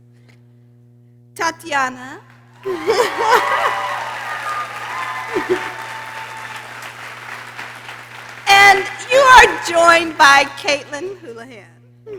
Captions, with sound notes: Tatiana. (laughs) (people cheering) And you're joined by Caitlin Houlahan.